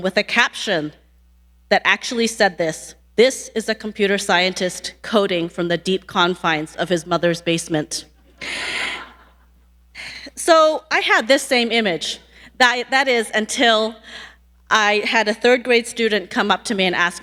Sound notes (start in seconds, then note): 8.8 audience laughing